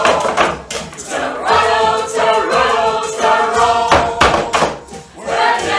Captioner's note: drinkers bang on tables